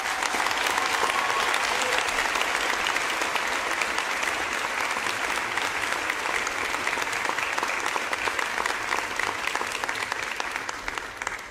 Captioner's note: applause